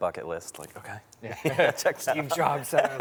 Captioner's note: laughs